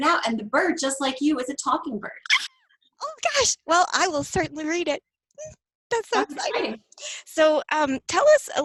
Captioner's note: squeal